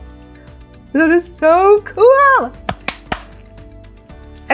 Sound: claps hands

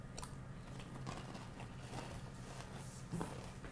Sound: crunching

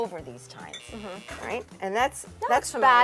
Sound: buzzer buzzing

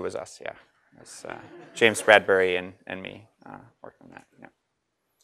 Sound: laugh

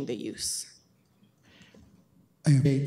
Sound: audio drop

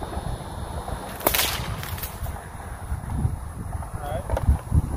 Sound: whip cracks

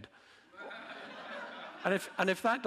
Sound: audience laughing

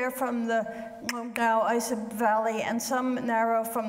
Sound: speaks foreign language

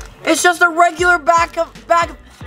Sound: none

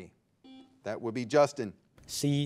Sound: buzzer beeping

